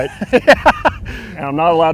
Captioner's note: laughing